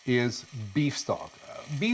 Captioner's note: liquid gushing